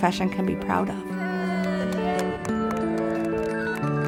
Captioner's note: cheering